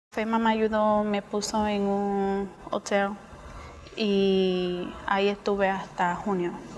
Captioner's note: speaking spanish